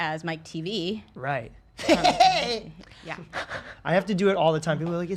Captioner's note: chuckling obnoxiously